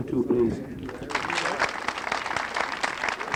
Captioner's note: applause